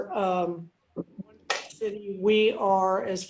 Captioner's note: speaking faintly